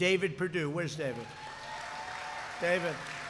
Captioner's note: applause